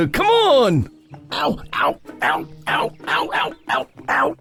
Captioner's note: gruff